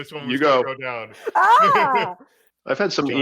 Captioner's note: laughing